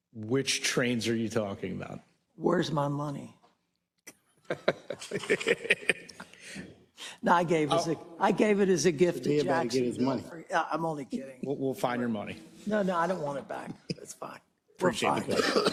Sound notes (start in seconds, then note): 4.4 laugh; 15.1 laugh